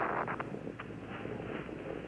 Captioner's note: PA system static